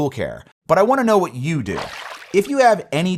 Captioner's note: water splashing